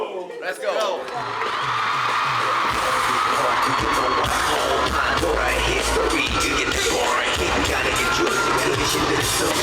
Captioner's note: ARMY welcomes j-hope again with massive cheers